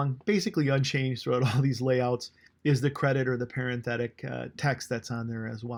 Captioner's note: chuckling